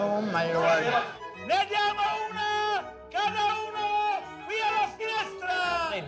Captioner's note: shouting in Italian